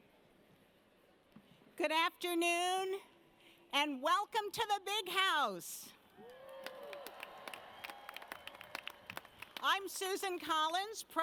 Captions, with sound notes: - Good afternoon, and welcome to the Big House. (audience cheers) I'm Susan Collins,